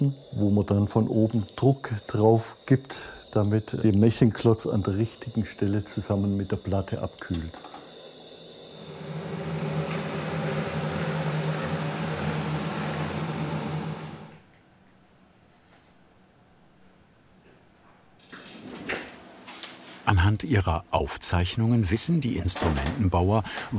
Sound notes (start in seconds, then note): 7.8 burner hissing